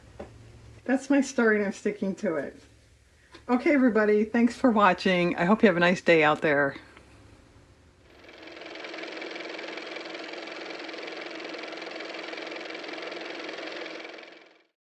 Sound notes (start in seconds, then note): 8.1 car motor